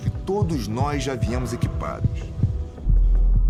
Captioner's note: fast beating sound